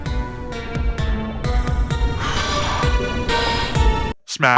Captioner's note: deep breath